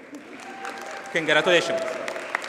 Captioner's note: audience cheers and applauds